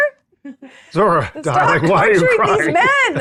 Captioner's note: laughs